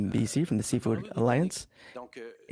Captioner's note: speaking French